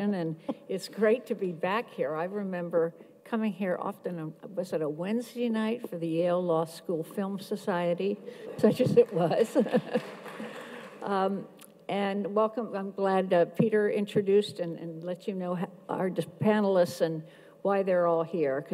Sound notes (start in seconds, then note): 8.6 audience claps; 9.8 laughs